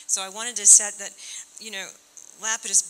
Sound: none

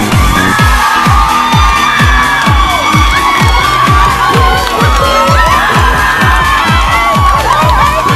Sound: excited screaming

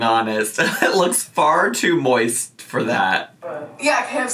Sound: chuckles

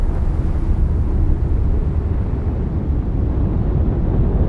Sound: wind howling

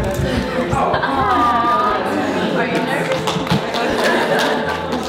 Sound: chatter

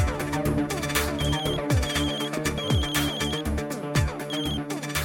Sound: phone rings

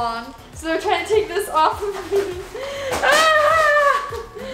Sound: yells

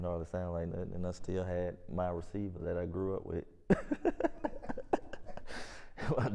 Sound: laughs

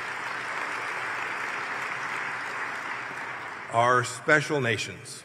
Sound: applause

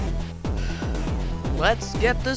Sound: sigh

